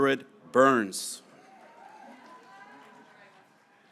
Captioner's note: graduates cheering